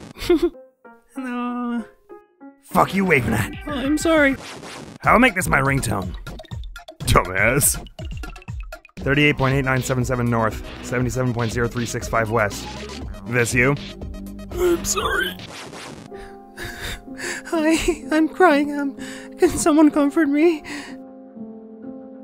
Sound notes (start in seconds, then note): 15.1 strained; 19.2 crying